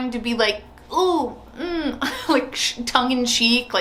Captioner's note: makes comical sounds